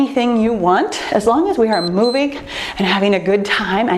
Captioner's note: timer beeps